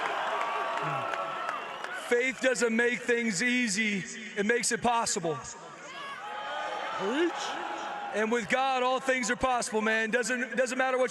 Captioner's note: applause